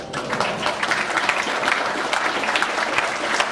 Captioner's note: applause